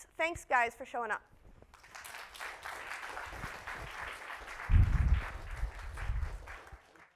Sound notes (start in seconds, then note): 1.7 audience applauds